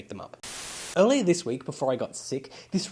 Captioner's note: Static